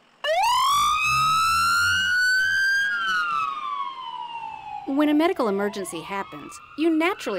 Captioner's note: nats: ambulance siren